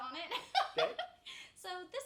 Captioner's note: laughs